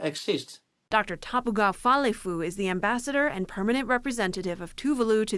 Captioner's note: voice-over